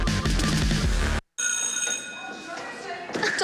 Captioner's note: school bell ringing